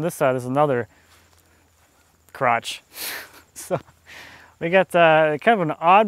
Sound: laughs

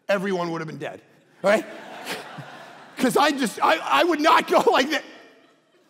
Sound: congregation laughing

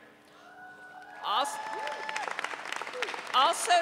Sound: audience cheering

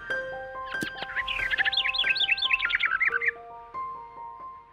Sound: gentle music; birds chirping

